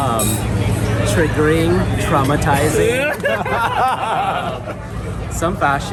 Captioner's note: all laughing